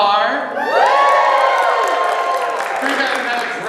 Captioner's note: cheering